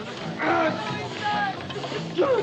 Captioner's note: David cries out